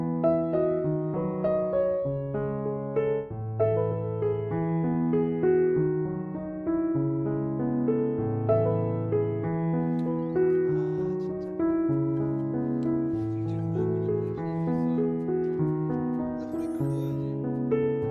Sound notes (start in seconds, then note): 10.0 laughs